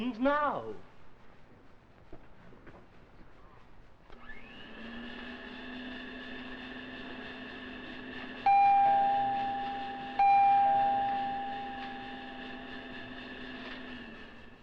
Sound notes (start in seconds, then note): 8.4 door bell